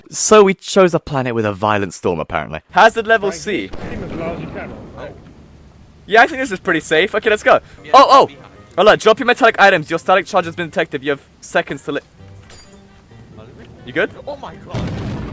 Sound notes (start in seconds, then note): 3.6 very unsafe Lightning Strike